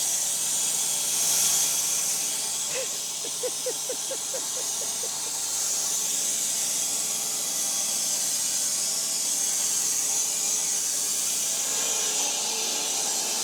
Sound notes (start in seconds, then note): 2.6 laughing; 7.6 saw buzzing